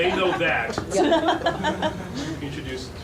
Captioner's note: laughing